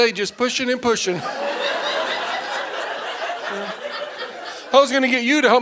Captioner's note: audience laughing